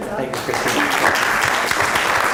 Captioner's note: applause